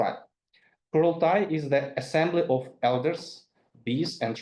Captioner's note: speaks in foreign language